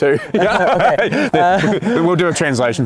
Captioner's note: laughing